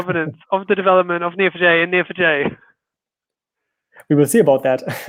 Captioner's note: laughing